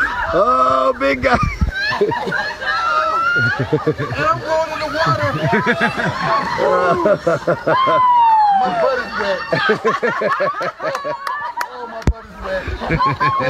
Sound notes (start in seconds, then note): 1.3 laughter; 8.7 laughter